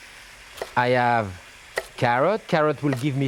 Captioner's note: knife thudding